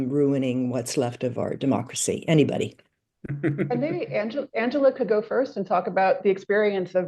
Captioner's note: laughter